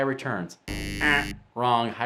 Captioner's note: sound buzzing